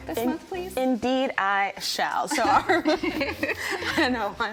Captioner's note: everyone laughing